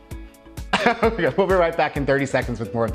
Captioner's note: laughing